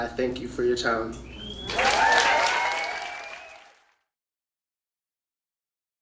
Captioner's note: audience applauding